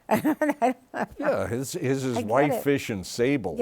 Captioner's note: laughs